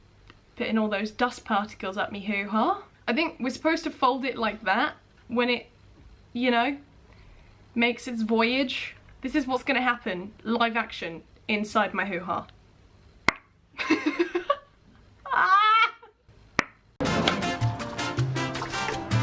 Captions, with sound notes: Putting all those dust particles at me hooha. I think we're supposed to fold it like that when it you know Makes its voyage. This is what's gonna happen live action inside my hooha *pop noise* *laughing in distress* *pop noise intensifies*